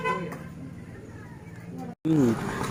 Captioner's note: vehicle sounds